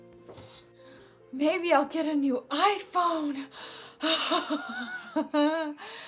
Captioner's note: laughs